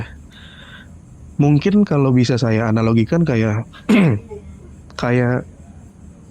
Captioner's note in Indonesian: berdehem